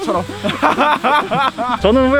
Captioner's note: laughing out loud